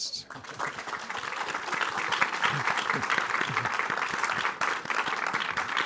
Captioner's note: applause